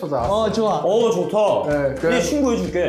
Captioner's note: voices of support